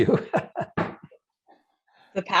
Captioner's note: laughing